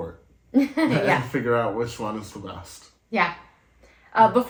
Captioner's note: laugh